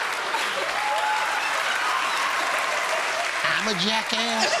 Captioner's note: cheers and applause